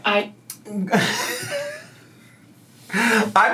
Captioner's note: laughs